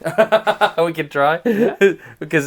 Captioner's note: Destin Laughs